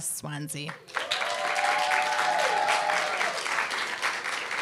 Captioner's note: applause, cheer